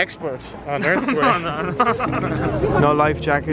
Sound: chuckles

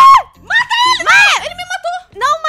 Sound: screaming

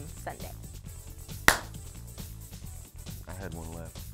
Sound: pop

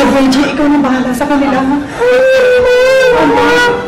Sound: Emman crying

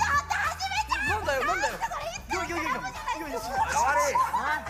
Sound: Excited Ibuki noises

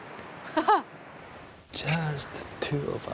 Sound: laughing out loud

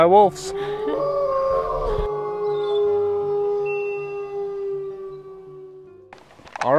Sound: wolves howling

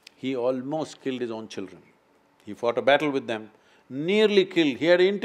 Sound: none

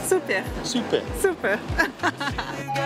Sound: laughs

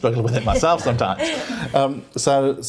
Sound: laughter

